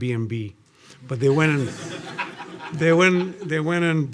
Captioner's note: audience laughing